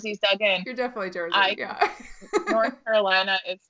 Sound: laughing

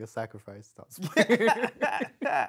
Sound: laughing

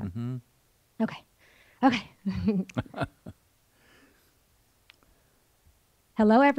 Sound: both laugh

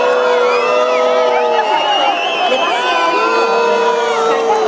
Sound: people whistles against Minister

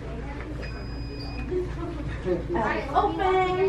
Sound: beeping

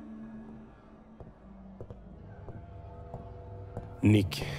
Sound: clatter of footsteps on concrete

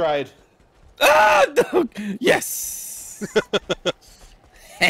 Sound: laughs

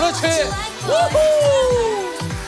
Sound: cheering

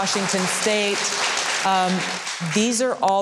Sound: audience claps

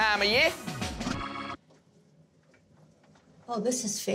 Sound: music stops

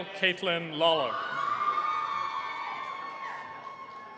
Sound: cheering

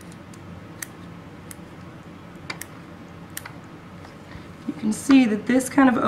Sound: clipping sounds

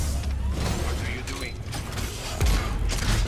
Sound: radio

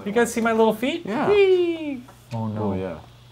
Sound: cheering

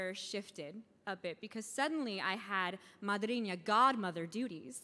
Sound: speaking in foreign language

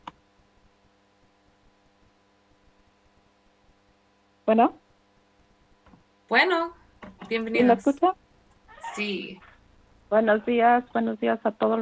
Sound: speaking spanish

